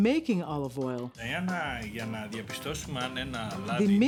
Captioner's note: speaking in greek